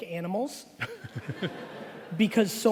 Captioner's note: laughing